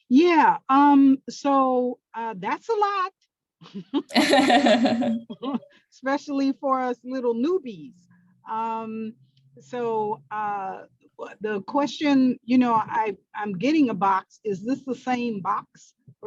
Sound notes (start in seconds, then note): 3.8 laughing